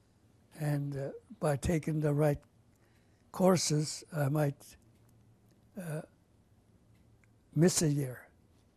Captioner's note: pauses for 3 seconds